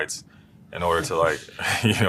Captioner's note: laugh